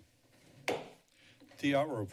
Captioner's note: gavel tap